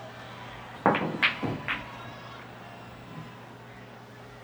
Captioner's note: balls clonking